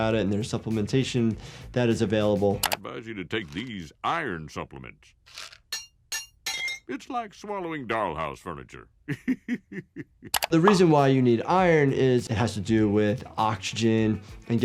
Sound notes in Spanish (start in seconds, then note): 5.2 las tabletas tintinean; 9.0 risas